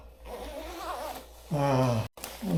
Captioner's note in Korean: 지퍼 내려가는 소리